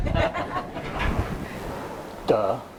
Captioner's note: laughter